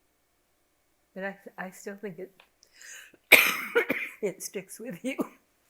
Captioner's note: coughs